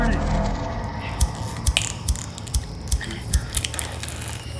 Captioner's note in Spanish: clic del encendedor